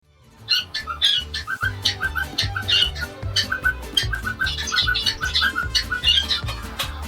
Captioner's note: cockatiel sound; cockatiel & zebra finch sound